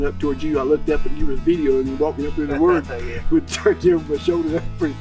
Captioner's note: laughter